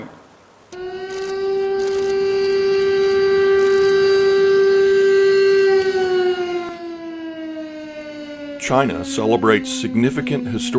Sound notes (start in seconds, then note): 3.9 quiet air raid siren